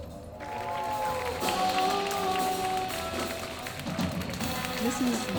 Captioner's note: lively music; audience applauds